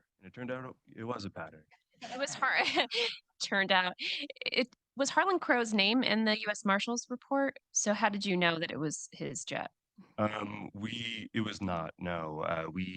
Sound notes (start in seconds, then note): 2.0 audience laughing